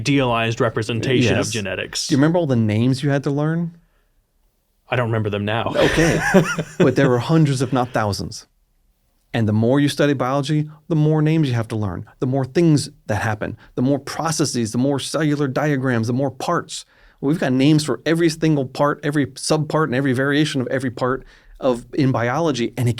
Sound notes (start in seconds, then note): 5.6 laughs